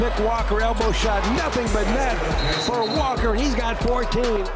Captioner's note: whistle blows